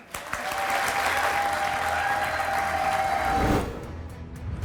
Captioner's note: audience cheering; deep tense music